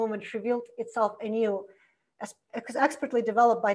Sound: none

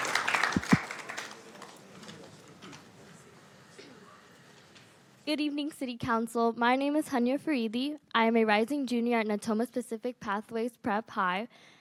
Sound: applause

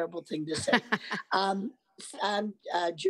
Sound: laughs

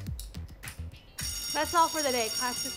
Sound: bell rings

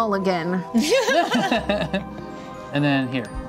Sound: laughing

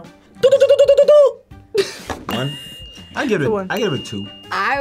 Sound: bell dinging

